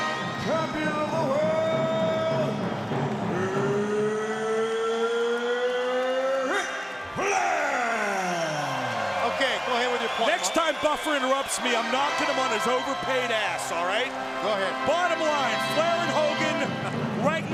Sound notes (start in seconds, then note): 8.9 crowd cheering